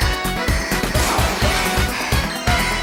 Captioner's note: panting!